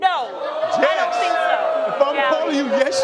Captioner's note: crowd booing